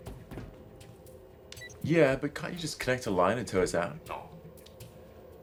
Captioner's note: beeps